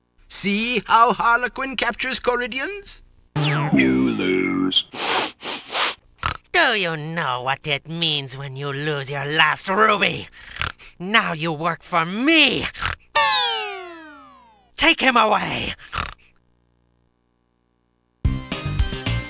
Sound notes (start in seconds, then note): 3.6 robotic Voice; 6.2 oink; 10.5 oink; 15.9 oink